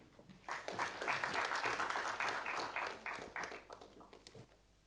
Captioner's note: audience applauding